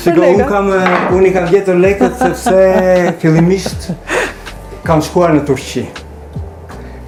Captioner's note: laughs; laughs